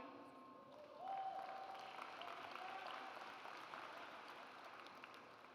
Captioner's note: audience applauds